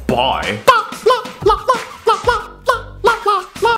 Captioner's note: high-pitched noises